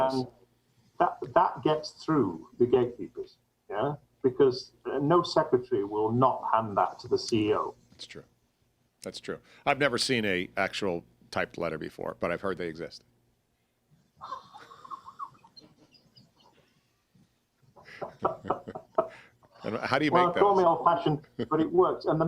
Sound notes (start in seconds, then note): 14.2 both laugh